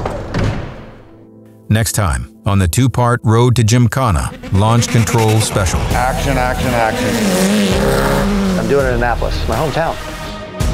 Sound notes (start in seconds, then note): 6.9 engine revving